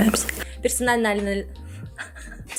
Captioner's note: laughter